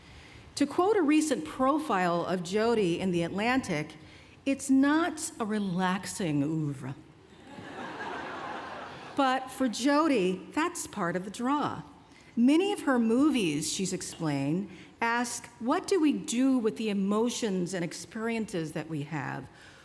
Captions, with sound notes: To quote a recent profile of Jodie in The Atlantic, "It's not a relaxing oeuvre." [laughter] "But for Jodie, that's part of the draw. Many of her movies, she's explained, ask, what do we do with the emotions and experiences that we have?